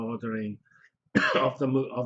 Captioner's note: cough